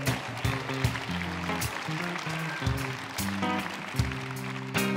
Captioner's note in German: Applaus